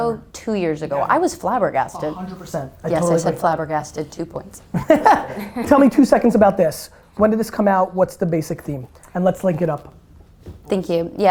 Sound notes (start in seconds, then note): 4.7 laughs